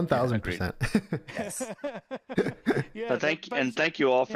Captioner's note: all laugh